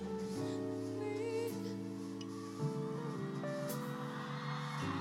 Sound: cheers and applause

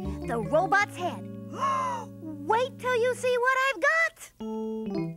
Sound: gasps

